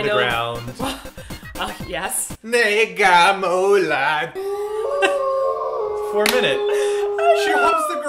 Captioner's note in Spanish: risas